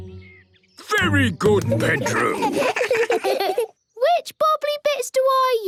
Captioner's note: children giggle